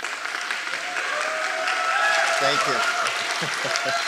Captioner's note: audience applauding and cheering